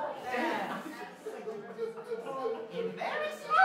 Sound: MAX sobbing

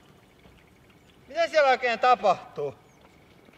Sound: speaking in Finnish

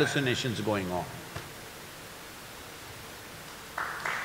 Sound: applause

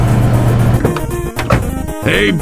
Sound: random vehicle driving; doors opens and closes

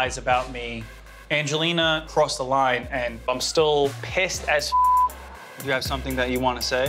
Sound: beep

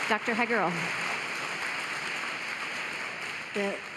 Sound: applause

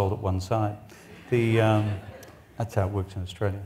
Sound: audience laughs

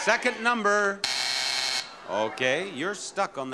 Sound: buzzer blaring

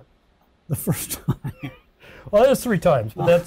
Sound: laughs

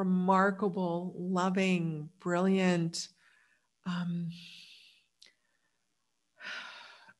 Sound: sighs

